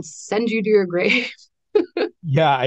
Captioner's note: laughs